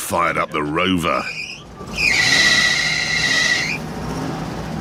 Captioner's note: fan belt screeches